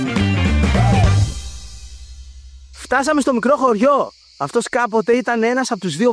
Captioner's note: clap